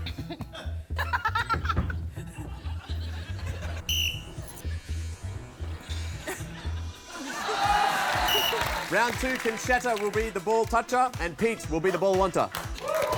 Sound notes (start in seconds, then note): 1.0 laughs; 3.8 blows whistle; 8.2 blows whistle